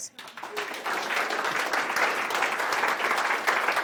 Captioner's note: audience applauds